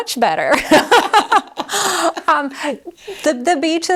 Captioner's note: both laughing